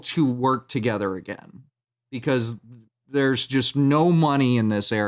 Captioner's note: none